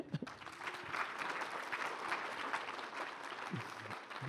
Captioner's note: applause